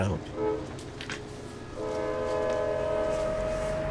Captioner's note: horn honking